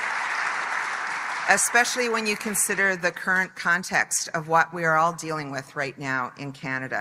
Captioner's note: applause